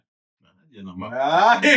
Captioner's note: speaking In Foreign Language